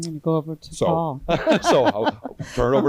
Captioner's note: audience and panelists laughing